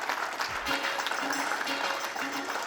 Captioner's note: crowd applauds; upbeat music